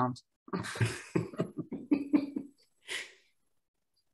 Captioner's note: laughs